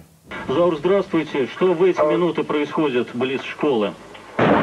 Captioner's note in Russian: М. голос по телефону